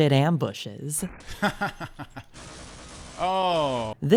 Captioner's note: laughter